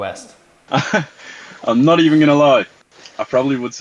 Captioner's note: laughing